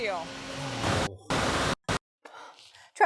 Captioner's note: static!